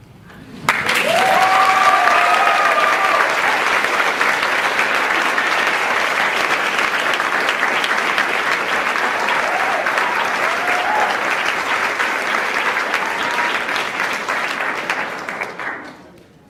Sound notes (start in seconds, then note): 4.1 cheers; 7.2 applauds